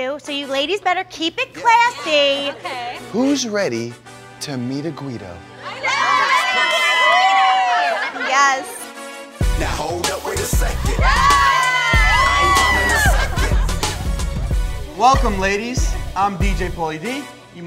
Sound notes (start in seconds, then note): 5.6 cheering; 9.3 upbeat rap music